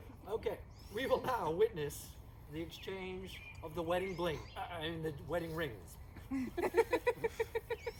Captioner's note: spurts of laughter